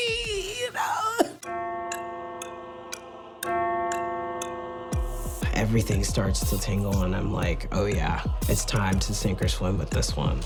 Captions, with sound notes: You know. [spooky music] [clock ticking] - Everything starts to tingle and I'm like, oh yeah, it's time to sink or swim with this one.